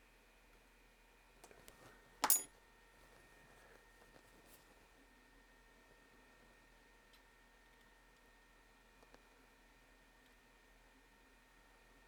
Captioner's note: clink